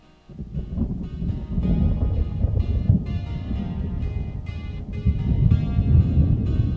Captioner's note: thunder